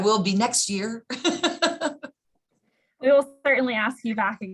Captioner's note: laughs